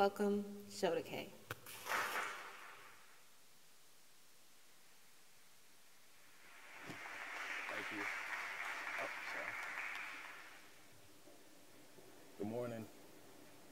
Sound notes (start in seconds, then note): 6.4 applause